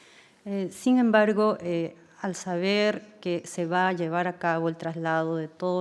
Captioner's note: speaking in foreign language